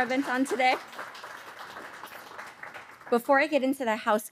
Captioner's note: audience applauding